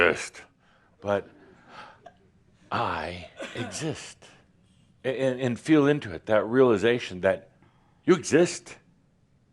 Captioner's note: grumpily